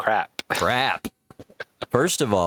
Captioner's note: laughs